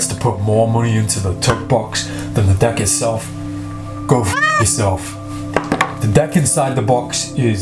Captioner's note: meow